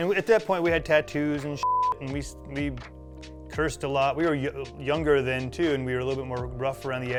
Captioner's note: beep